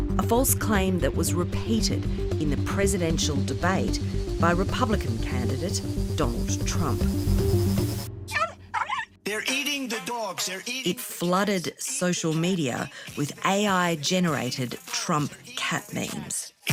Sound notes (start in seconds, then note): 8.7 dog barking